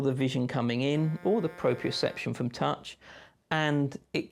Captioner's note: honk